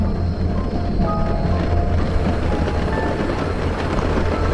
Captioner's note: thrilling music; rain slapping